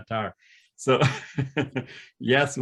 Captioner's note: laughing